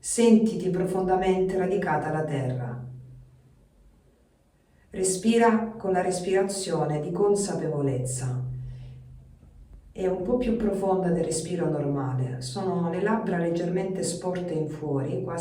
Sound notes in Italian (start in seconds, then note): none